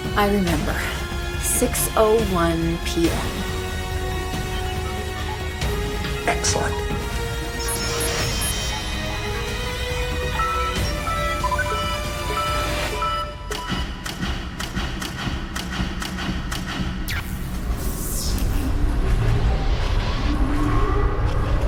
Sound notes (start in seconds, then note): 14.1 floodlights shunting; 18.5 machinery whirring